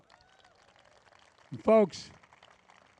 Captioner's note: applause